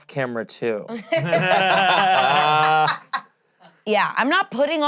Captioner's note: all laughing